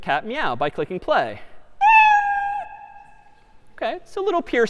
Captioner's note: میو زدن